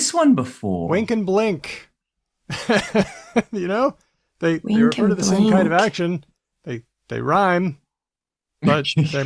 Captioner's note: laughs